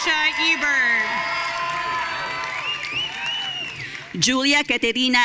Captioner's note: audience cheering